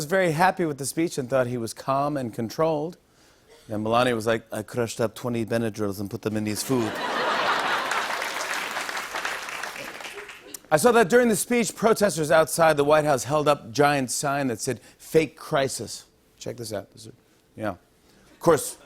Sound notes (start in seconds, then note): 6.6 laughter; 7.4 applause; 9.4 normal voice